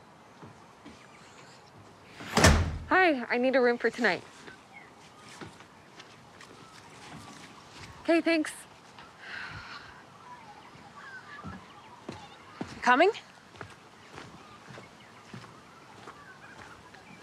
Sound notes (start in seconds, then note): 2.2 door slams shut